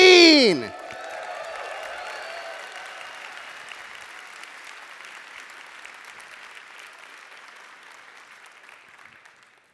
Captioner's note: applause and cheering